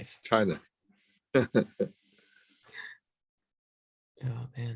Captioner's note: giggles